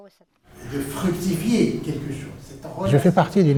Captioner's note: lecturing in French